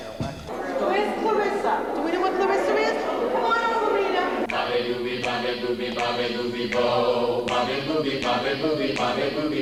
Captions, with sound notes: Where is Clarissa, do we know where Clarissa is? (humming)